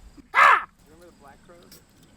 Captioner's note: crow squawks